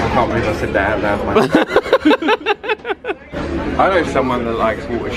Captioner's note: both laughing